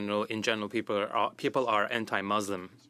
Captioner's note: speaking French